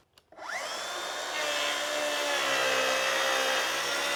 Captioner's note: saw whirring